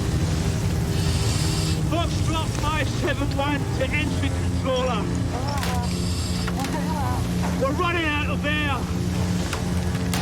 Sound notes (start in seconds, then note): 5.0 woman over radio